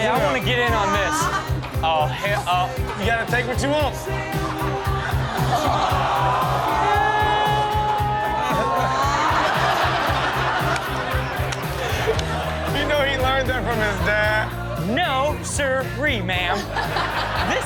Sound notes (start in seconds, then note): 4.0 crowd exclaims; 4.9 upbeat music; 8.3 audience laughing; 9.7 upbeat music